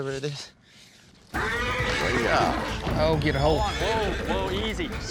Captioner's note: horse whinnies